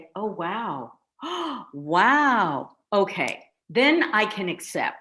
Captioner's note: gasps